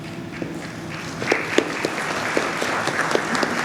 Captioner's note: clapping